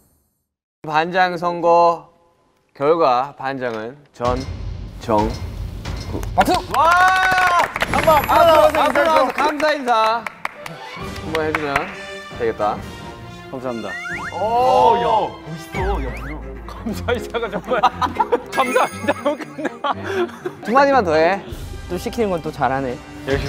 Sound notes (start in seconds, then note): 6.4 applauding class president